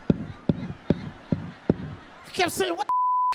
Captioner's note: microphone scraping; beep